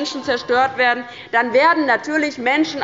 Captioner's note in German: Unruhe – Glockenzeichen des Präsidenten